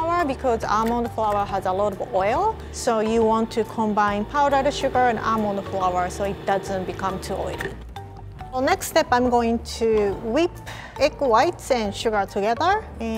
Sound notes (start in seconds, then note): none